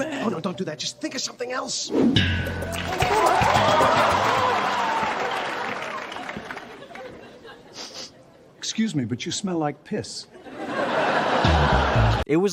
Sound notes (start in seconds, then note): 2.6 stinger, applause; 10.6 stinger, audience laughter